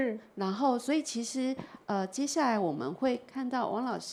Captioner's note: Mandarin